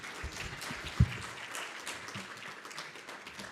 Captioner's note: applause